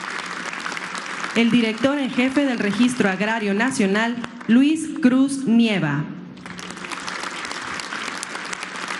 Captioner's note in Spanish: aplausos